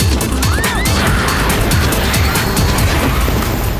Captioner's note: screaming